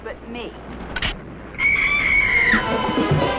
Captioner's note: rail snaps; Vi screaming; suspenseful music